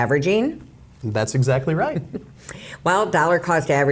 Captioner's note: laughs